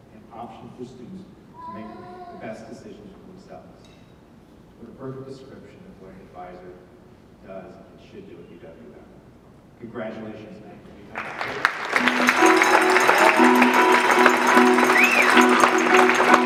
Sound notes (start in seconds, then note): 11.1 audience clapping; 13.8 jazz music